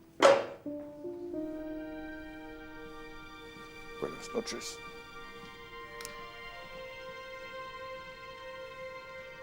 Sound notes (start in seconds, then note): 4.2 speaking in a foreign language